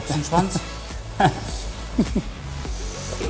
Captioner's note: laughs